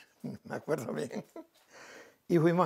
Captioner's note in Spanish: ríe